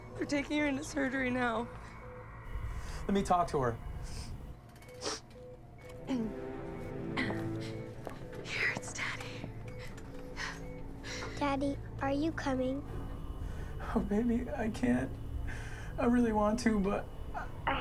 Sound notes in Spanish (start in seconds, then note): 4.9 Sniffles